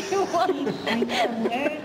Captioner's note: laughter